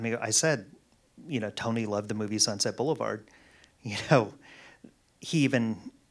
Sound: laughs

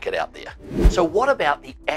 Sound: air whooshing

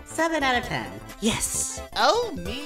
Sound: quietly

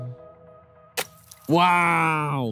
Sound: ice smashing

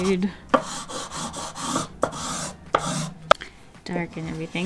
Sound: loud swooshy noises

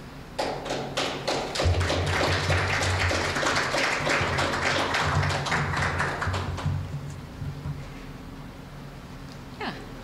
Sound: applause

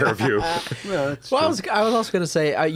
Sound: laughter

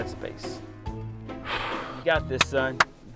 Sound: son sighs; clapping

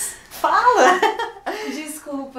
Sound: laughing

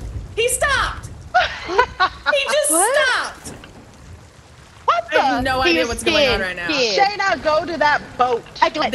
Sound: laugh

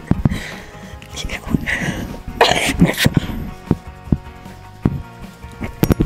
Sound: laughs; coughs

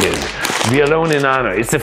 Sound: bag rustles

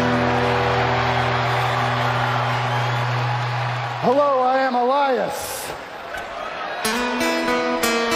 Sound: cheers and applause

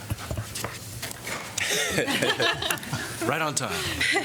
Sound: laughter

